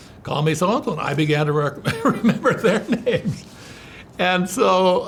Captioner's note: laughs